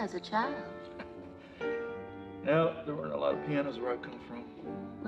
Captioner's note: chuckles